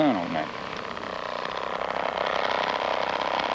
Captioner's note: chain saw grinding